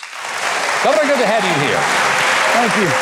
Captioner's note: applause